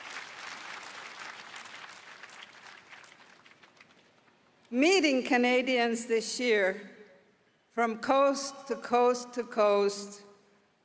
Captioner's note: applause